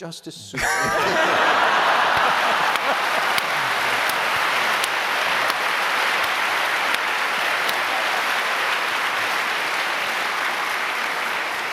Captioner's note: laughter; applause